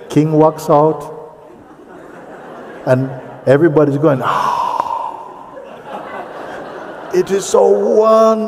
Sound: makes noise of admiration

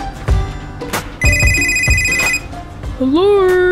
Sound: phone ringing

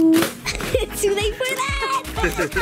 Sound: girl laughing

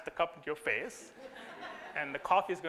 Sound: audience laughter

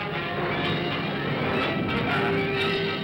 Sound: dramatic ominous music; thunder rumbles

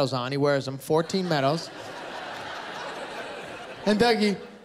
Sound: laughter

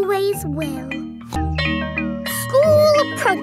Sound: school bell rings

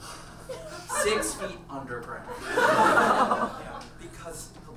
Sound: audience laughs

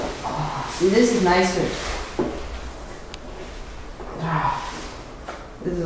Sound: sighs

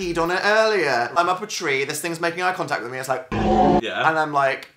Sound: Titan noises play in background

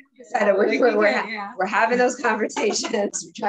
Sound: laughs

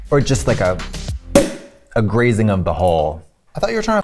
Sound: cork pops

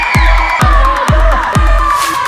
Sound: screaming and yelling

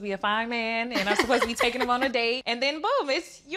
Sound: laughs

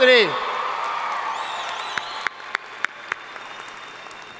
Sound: audience cheering

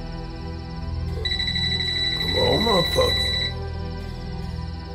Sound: phone rings

